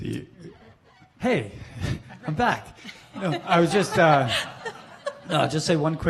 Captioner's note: laughing